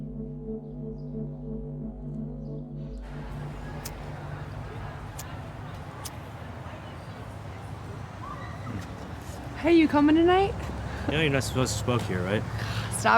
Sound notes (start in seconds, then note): 0.0 tense music; 3.7 lighter clicking